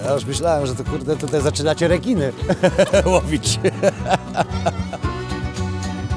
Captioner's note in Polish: śmiech